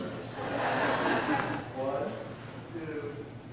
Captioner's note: laughter